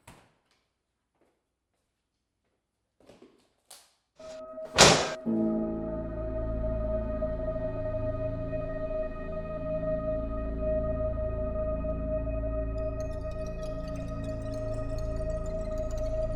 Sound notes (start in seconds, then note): 4.7 dishwasher door slams; 4.8 eerie music